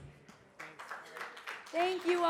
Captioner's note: audience applauding